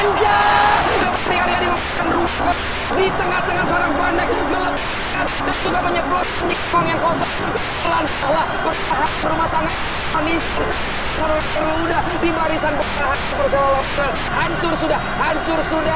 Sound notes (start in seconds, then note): 0.1 static interference; 4.0 soccer game and static continues